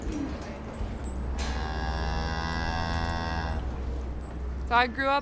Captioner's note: cow moos